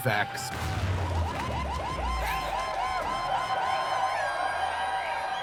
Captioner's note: sounds of explosion and electronic airhorn playing; crowd cheering